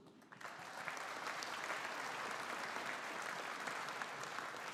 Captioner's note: audience applauding